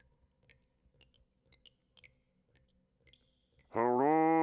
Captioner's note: water dripping